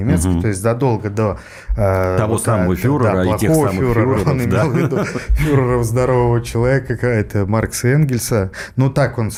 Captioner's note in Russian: смех